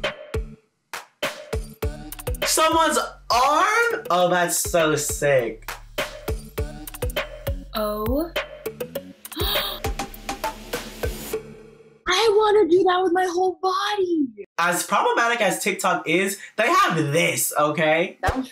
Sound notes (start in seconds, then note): 9.4 gasps